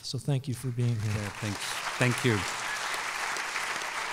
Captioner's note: applause